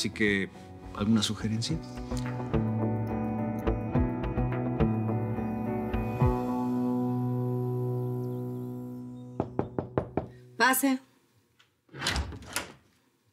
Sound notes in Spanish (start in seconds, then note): 9.4 Toques en la puerta; 11.8 Sonido al abrir la puerta